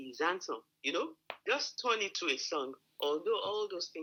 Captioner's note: talking